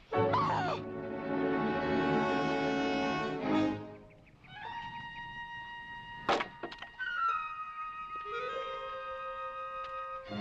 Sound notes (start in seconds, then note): 0.7 huffing